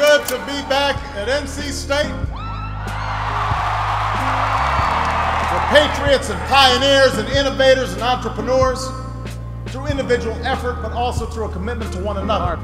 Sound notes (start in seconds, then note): 0.0 slide clicks; 2.2 gentle piano music; 2.3 crowd cheers